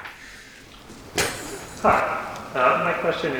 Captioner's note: laughs